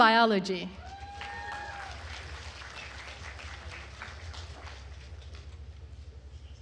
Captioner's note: attendees cheering and applauding